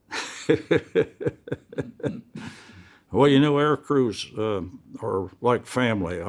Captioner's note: laughing